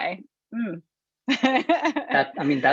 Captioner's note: laughs